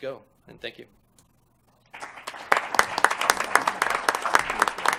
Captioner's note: applause